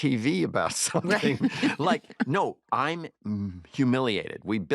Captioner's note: laughter